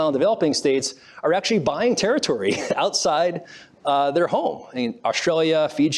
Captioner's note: laughs